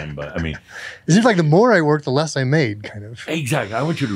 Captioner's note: chuckling softly